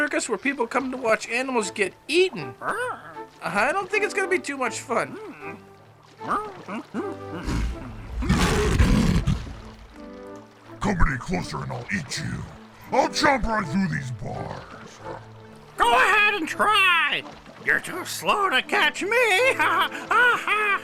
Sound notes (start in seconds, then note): 8.8 rugido de león; 19.3 risas